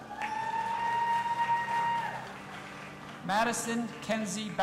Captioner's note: audience applauding and cheering